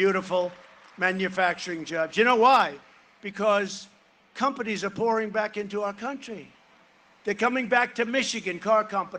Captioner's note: cheering and applause